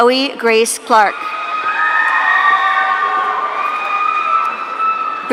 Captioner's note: audience cheering